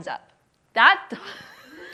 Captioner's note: laughs